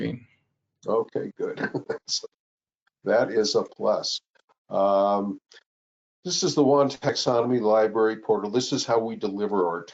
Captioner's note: laughs